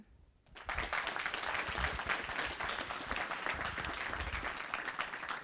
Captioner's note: audience applauding